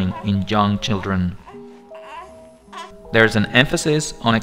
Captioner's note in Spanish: niño llorando